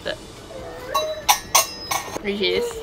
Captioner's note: crying in the background